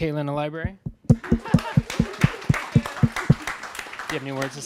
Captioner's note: audience applauding